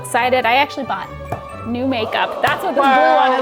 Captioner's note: crowd gasping